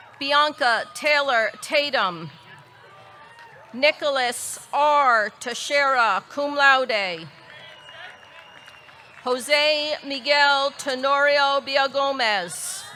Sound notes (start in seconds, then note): 0.0 audience cheering; 6.0 audience clapping; 7.5 audience cheering; 12.7 audience cheering; 12.7 audience clapping